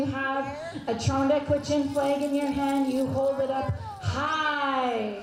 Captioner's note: speaking Indigenous language